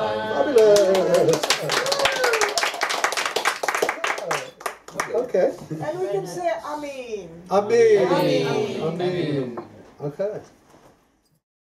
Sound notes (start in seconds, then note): 0.5 clapping